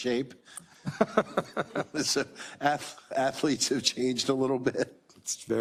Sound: laugh

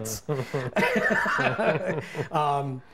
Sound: laughs

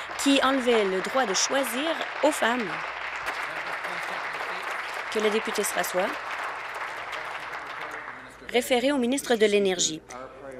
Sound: applause

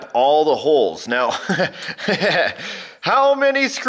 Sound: laughs nervously

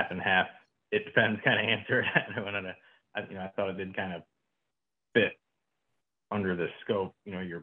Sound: laughter

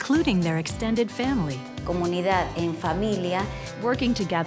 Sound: speaking spanish

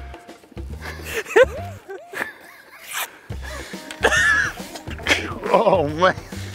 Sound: laughs

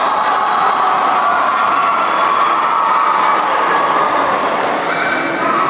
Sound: applause

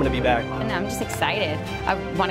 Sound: woman's Voice

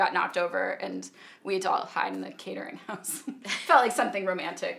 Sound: laughs

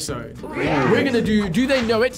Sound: crowd

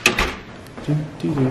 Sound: door clatters

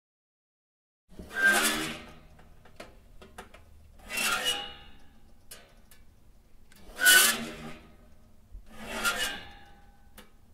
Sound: screechy toaster oven

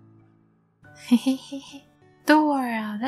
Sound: giggling

